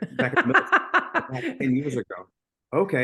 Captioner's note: person laughing